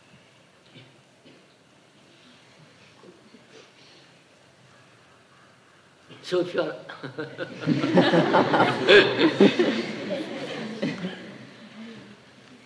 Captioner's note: laughs; laughter